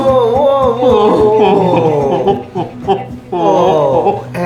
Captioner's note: sobbing